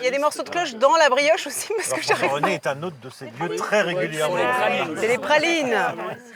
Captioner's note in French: rires